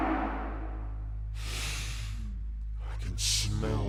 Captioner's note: inhales